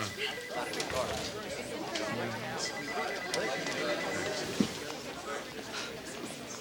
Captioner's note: office chatter